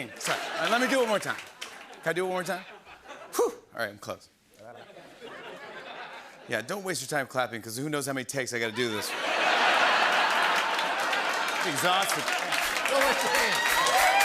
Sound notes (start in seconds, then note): 4.6 laughter; 8.8 laughter and applause